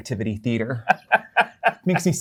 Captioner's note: laughter